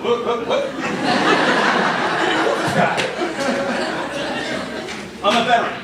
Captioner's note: laughter